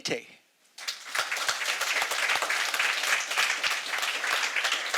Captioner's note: audience applauding